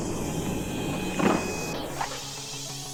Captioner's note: clattering